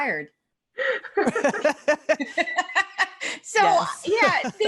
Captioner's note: laughter